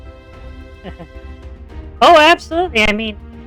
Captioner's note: laughs